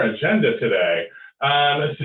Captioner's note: chuckles